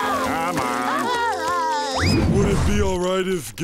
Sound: crying

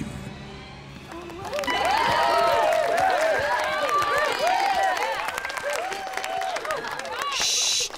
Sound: applause, cheering

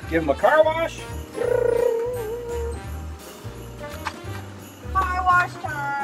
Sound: mimics car engine

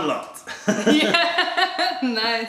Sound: laughter

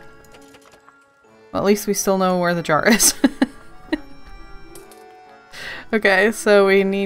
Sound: laughs

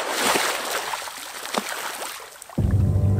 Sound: splashing

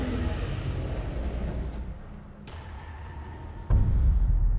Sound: dinosaur growls

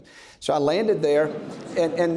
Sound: audience laughs

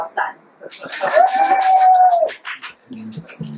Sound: crowd cheering

